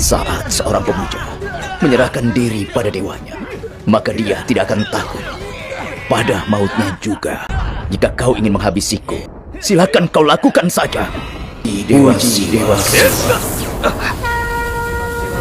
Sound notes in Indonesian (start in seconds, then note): 13.0 tertawa